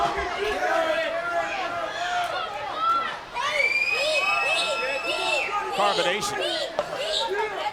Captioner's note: crowd chatter